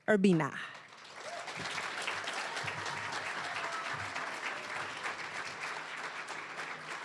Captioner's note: cheering, applause; applause